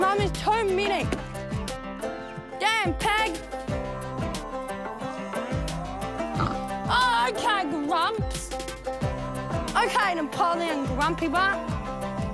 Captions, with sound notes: Mum, there's too many. Damn, Pig! - (PIG SNORTS) - Oh, OK, Grumps! OK, Napoleon Grumpy Butt.